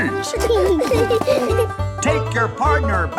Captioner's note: laughing